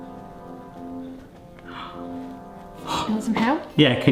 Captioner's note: gasping